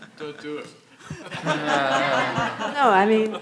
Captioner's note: everyone chuckling